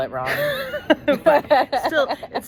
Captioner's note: women laughing